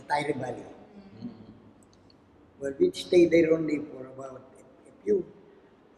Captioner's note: foreign language